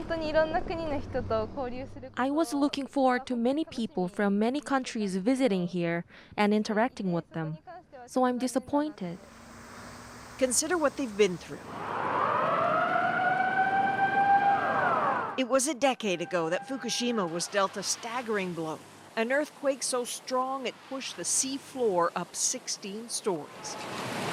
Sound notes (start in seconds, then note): 1.5 speaking Foreign Language; 15.8 sirens